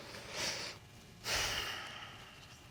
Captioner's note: sighs